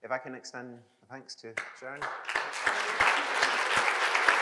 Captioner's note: applause